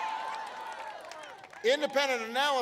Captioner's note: applause